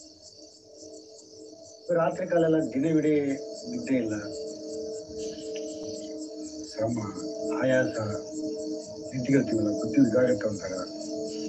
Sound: non-english speech

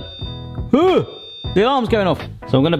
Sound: fridge alarm beeping

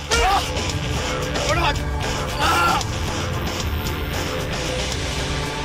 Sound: punches and yelling

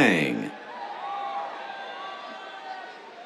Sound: cheers

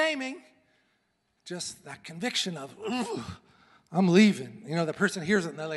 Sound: sighs

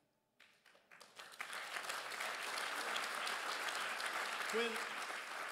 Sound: crowd applauds

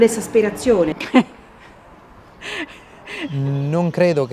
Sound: chuckles

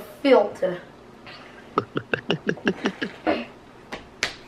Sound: gulping

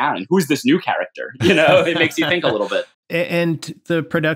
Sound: laughter

